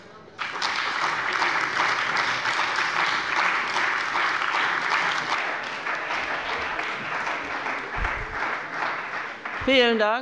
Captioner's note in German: Beifall bei BÜNDNIS 90/DIE GRÜNEN und der CDU